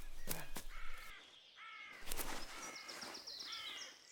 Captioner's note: bird squawking